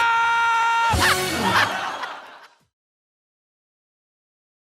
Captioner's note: RuPaul laughs